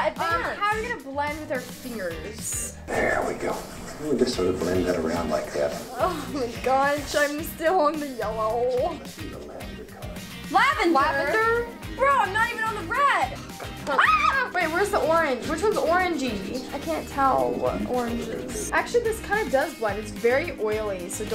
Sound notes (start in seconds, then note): 14.2 yelling